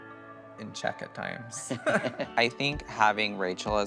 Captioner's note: all laugh